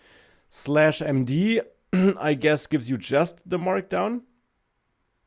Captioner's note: clears throat